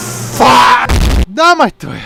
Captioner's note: boom